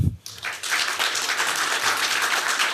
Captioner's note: applause